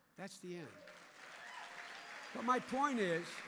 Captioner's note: applause